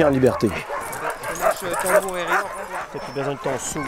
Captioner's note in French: aboiements